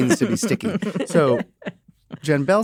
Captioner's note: laugh